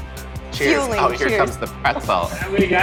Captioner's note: both laughing